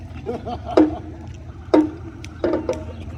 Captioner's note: laughter